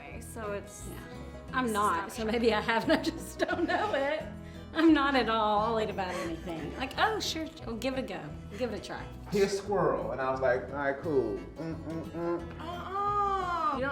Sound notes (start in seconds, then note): 4.3 laughs; 11.5 vocalizing